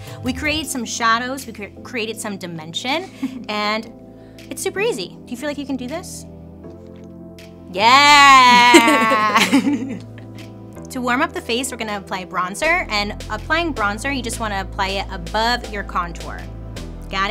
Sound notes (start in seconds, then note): 7.8 laughs